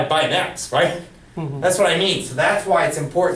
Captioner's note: voiceover